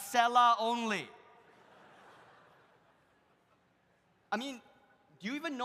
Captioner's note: audience laughs